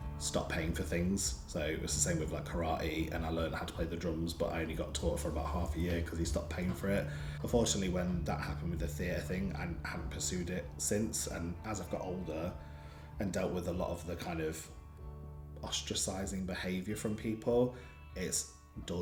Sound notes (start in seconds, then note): none